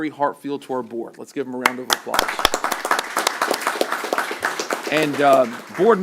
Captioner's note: applause